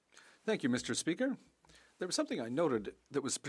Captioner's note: speaking French